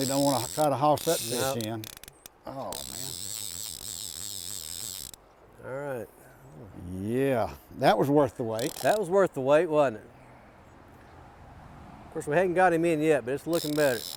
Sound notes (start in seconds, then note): 2.6 reel clicking rapidly